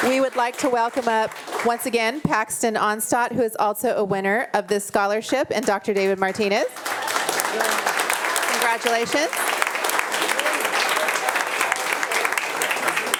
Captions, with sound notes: we would like to welcome up once again, Paxton Onstott, who is also a winner of this scholarship and Dr. David Martinez. (attendees applauding) Congratulations. (attendees applauding)